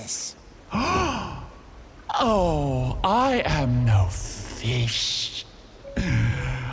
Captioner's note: gasps; deep inhale